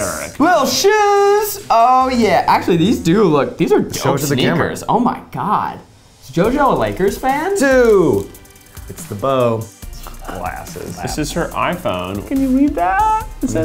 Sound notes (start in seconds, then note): none